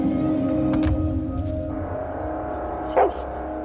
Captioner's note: barks